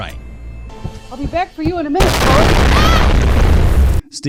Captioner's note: explosion; scream